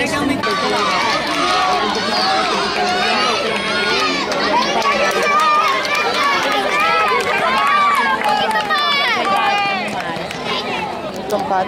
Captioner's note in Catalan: La gent anima